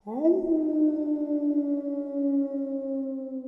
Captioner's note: canine howling